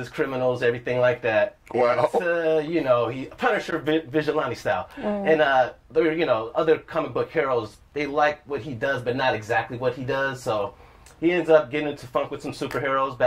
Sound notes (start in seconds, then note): 5.0 sounds of agreement